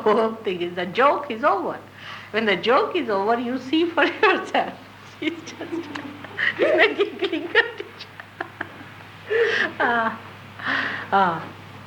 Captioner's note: laughing